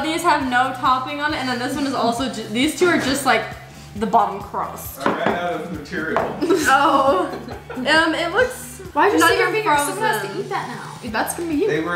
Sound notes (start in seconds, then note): 6.4 laughs